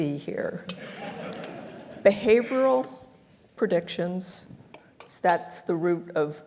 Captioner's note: laugh